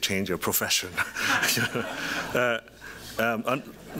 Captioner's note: laughter